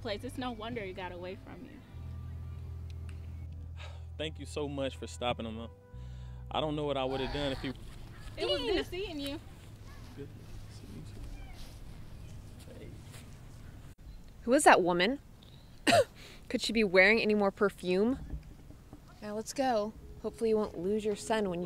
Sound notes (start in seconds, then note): 15.8 coughs